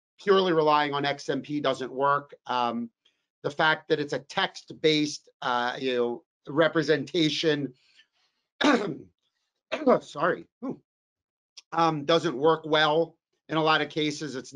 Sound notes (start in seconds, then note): 8.6 coughs